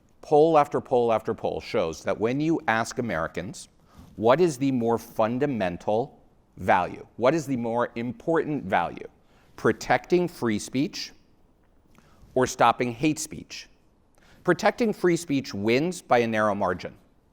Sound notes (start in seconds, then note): none